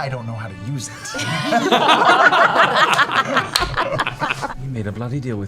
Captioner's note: laughter